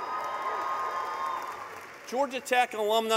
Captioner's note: cheering